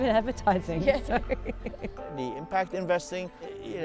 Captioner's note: both laugh